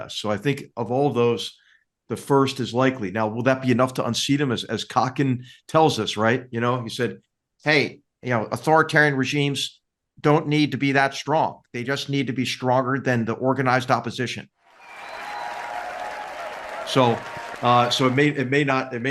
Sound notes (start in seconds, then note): 14.7 applause